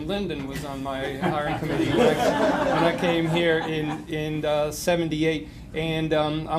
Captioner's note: laughter